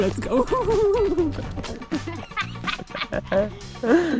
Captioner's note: laughter